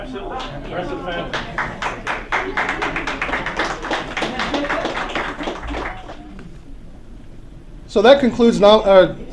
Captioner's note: applause